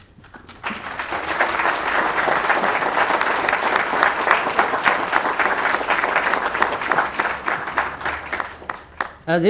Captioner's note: applause